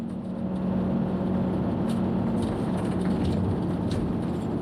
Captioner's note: driving noises